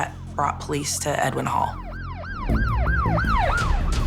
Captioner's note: siren wailing